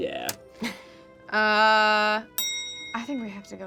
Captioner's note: bell clicking sound